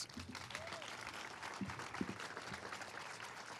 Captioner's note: all applauding